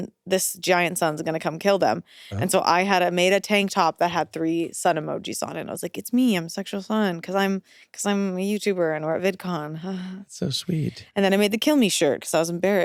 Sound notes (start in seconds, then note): 10.2 chuckles